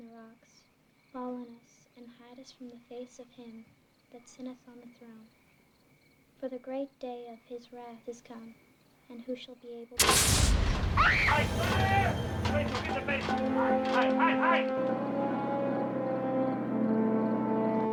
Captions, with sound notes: "'FALL ON US, AND HIDE US FROM THE FACE OF HIM THAT SITTETH ON THE THRONE. "'FOR THE GREAT DAY OF HIS WRATH IS COME. AND WHO SHALL BE ABLE--'" [screaming] QUICK, INTO THE BASEMENT. HIDE, HIDE, HIDE.